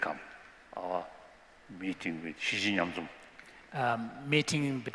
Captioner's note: non-english